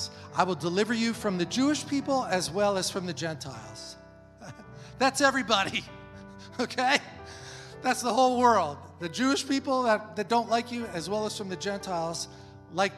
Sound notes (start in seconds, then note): 4.5 laughs